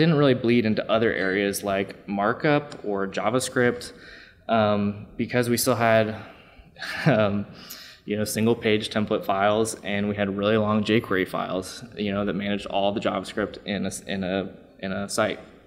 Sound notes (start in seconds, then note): 6.7 laughs